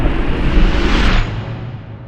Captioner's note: boom!